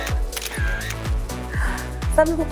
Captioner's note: hahaha!